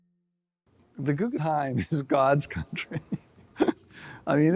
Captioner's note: laughs